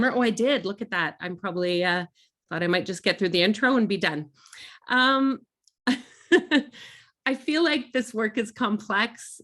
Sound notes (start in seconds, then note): 5.1 laughing